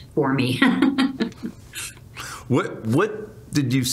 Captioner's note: chuckles